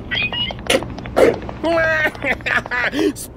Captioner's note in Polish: śmiech Wala